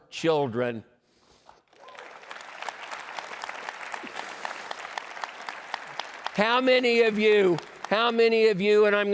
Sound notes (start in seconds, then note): 1.6 applause